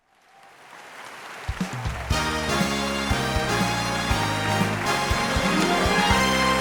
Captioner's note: audience applauding; exciting theme music